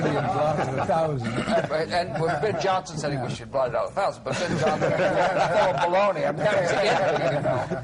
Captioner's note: laughter